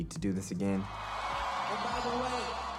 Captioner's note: crowd cheering